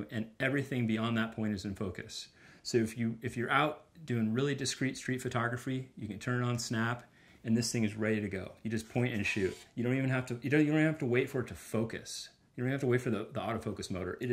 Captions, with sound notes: and everything beyond that point is in focus. If you're out doing really discrete street photography, you can turn on Snap and this thing is ready to go. (camera shooting) You just point and shoot. You don't even have to wait for it to focus. You don't have to wait for the Auto Focus motor.